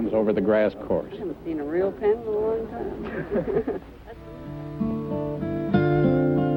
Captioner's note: laughs; melancholy guitar music